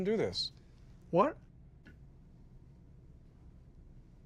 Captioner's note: stammers